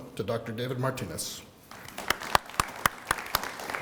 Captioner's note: applause